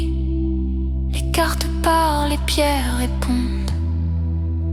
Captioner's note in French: voix aérienne